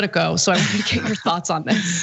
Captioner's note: laugh